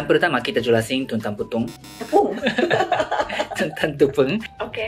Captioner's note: laughs